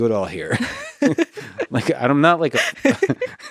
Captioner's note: both laughing